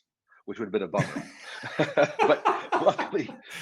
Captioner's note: chuckling